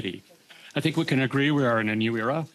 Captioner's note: speaking French